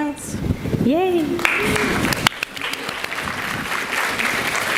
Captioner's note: audience applauds